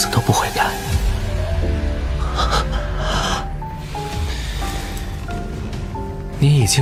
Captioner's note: breathing heavily